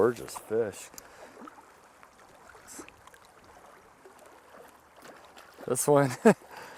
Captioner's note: splash